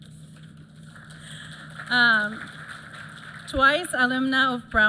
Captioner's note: applause